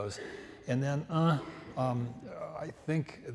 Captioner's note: grunts